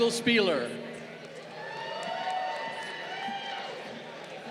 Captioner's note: crowd cheering